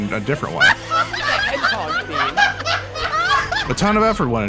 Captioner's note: me and my friends laughing